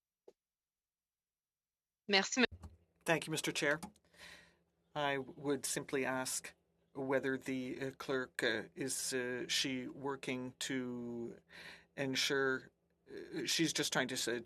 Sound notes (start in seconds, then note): 7.4 speaking French